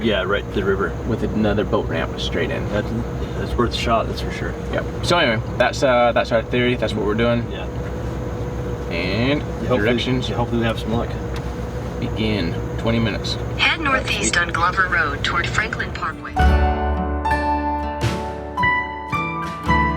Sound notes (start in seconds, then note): 13.8 sat Nav Female Voice; 15.3 upbeat music